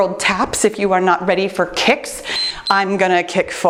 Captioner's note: timer beeps